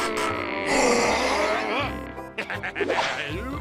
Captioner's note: growling